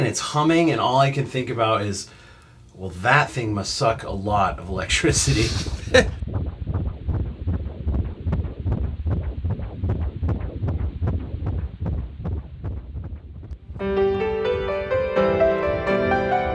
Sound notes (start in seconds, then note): 7.0 heartbeat; 13.7 piano playing